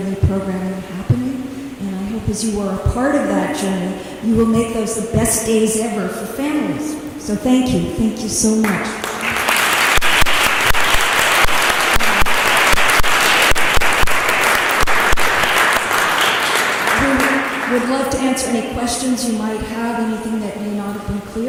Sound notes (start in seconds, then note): 8.6 applause